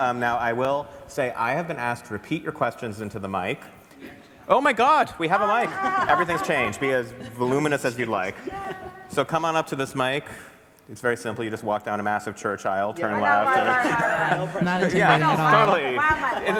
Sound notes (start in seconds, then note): 5.5 laughter; 13.2 laughs